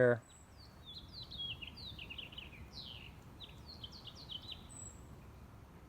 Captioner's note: birds twittering